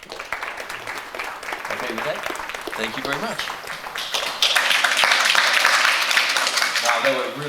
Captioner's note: applause